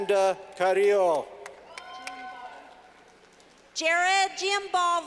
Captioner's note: clapping